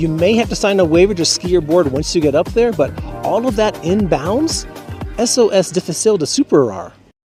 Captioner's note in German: Auf Spanisch